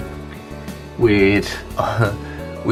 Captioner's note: giggles